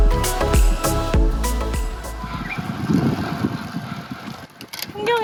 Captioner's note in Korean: 새 소리